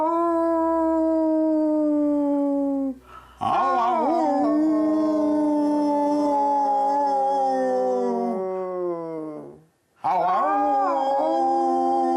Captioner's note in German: komisches Gehäule